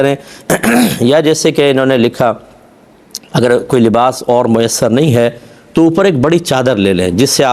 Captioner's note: clears throat